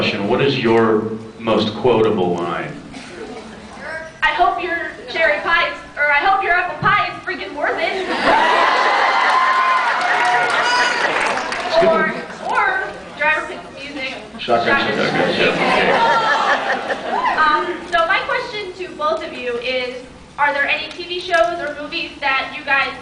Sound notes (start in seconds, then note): 8.2 cheers; 8.2 cheers, applauds; 10.9 applauds